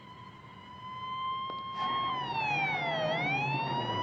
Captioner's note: police siren wailing